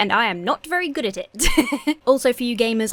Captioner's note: laughs